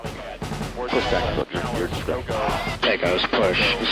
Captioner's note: radio chatter